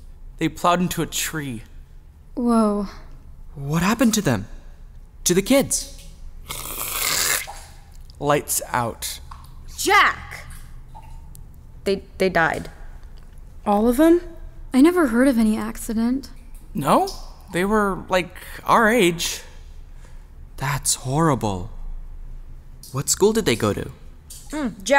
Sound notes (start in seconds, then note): 6.4 makes cutting sound